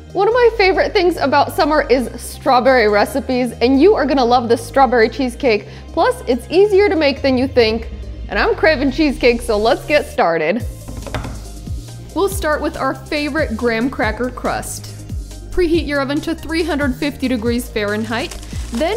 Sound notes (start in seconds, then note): 10.8 wood thudding